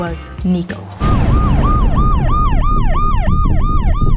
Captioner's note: ambulance sirens; intense music